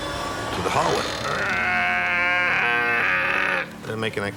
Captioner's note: imitates metal creaking